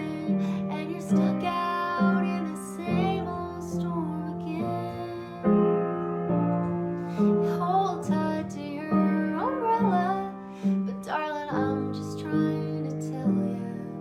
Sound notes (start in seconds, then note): none